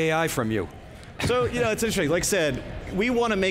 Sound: chuckling

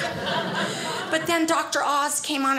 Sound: audience laughing

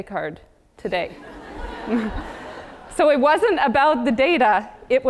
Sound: laugh

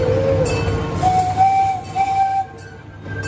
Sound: train whistle

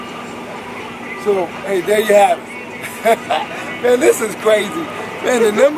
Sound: laughs

